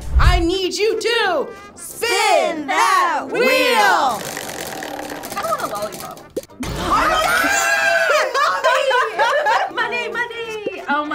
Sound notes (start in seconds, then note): 5.0 wheel rattling; 7.8 laughs